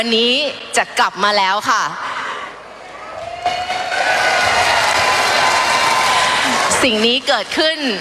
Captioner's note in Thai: ปรบมือ